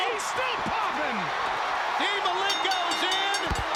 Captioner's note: audience cheers